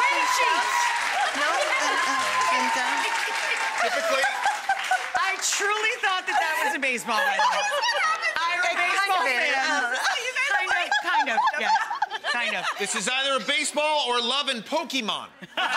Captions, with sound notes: Way to cheat! (people clapping and cheering) I truly thought that that was a baseball, by the way. (women laughing) I am a baseball fan. Kind of, kind of. (women laughing) This is either a baseball or Love and Pokemon,